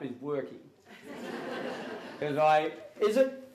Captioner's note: audience Laughter